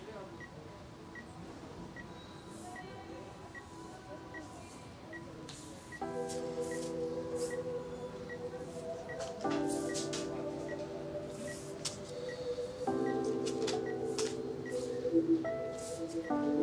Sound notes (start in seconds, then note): 3.2 life support unit sound; 12.2 life support unit sound